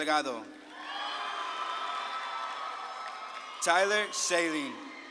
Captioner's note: audience claps and cheers